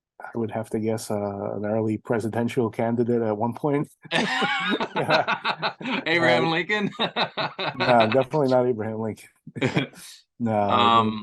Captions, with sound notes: I would have to guess an early presidential candidate at one point? [laughing] [laughing] Abraham Lincoln? Nah, definitely not Abraham Lincoln.